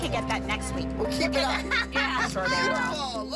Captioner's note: laughter